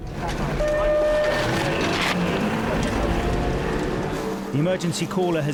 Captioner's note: electronic beep; engine races